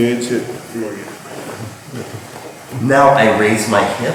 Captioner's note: speaking in a foreign language